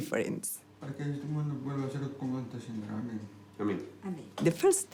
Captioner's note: recites prayer in spanish